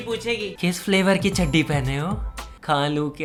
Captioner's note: mimics